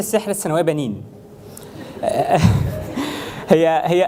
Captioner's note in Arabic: ضحك الجمهور